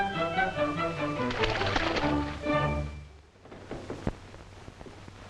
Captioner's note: playful music; water splashing